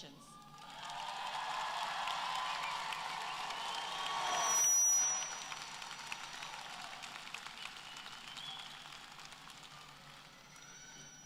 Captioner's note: applause